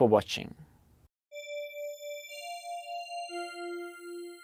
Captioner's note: soft chime